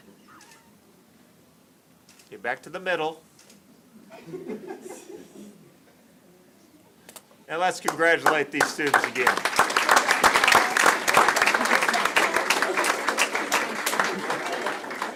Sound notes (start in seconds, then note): 4.1 laughter; 9.2 applause